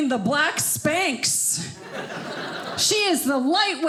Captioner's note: audience laughing